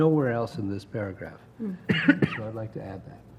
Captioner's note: cough